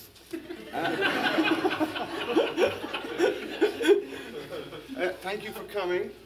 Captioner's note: laughter